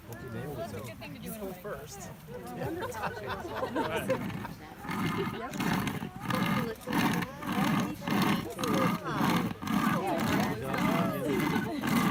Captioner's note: sound of sawing